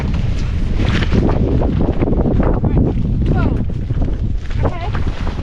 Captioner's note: big gust